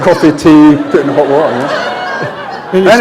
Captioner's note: laughter